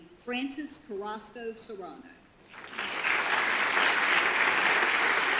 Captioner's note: audience applause